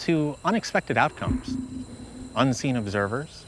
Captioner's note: spacious ping